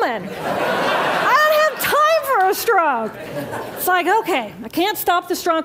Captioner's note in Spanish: Risas